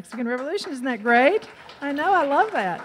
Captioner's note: audience cheers